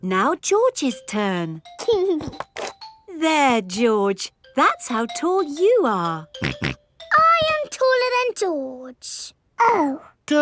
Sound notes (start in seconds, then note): 2.0 giggling; 6.4 snorts